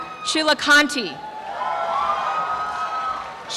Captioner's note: crowd applauds and cheers